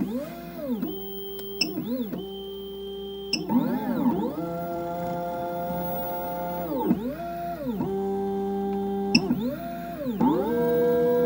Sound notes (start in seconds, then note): 0.0 machine revving; 0.3 machine whizzing and beeping; 3.4 machine revving; 5.6 machine whizzing; 10.0 machine beeping